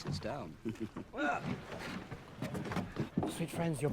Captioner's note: Lorenzo yells